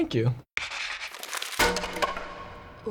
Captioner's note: SFX: scribbling, crumpling, clatter